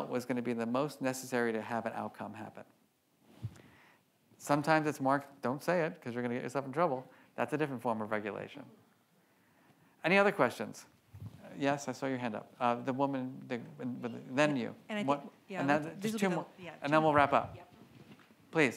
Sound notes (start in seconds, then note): 13.4 murmuring